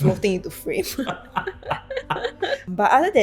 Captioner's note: both laughs